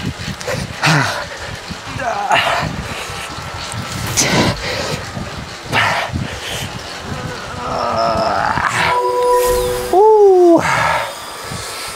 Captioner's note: breathing